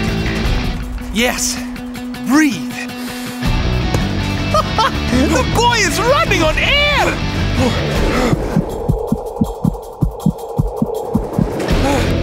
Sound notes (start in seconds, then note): 8.0 heart beating